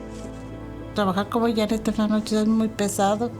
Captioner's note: woman speaking Spanish